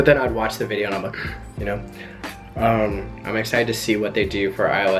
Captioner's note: gasps